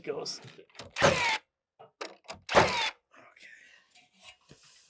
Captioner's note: power tool whizzing